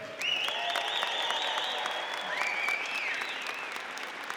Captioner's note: audience applauding